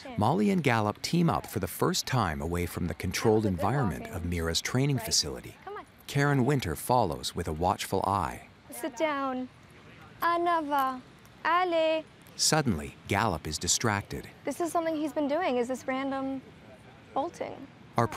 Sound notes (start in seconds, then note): 10.6 speaking French